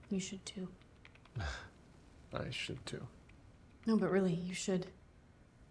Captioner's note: scoffs